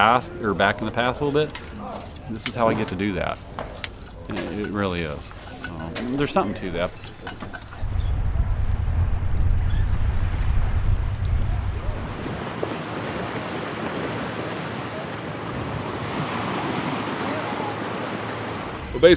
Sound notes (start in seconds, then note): 7.7 seabirds and waves